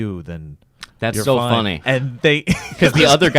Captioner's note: laughs